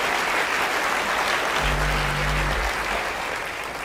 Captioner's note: applause